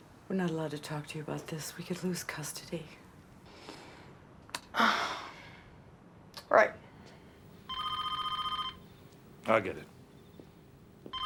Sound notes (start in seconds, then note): 3.4 breathes deeply; 7.6 telephone rings